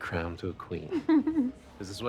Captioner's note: Cara chuckles